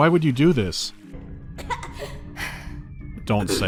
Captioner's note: chokes